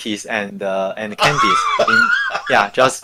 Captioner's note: laughing